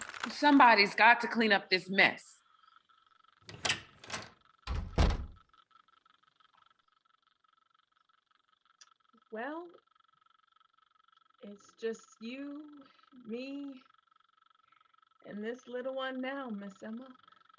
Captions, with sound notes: - Somebody's got to clean up this mess. (door closes) - Well, it's just you, me and this little one now, Miss Emma.